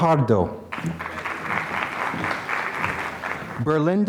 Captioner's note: applause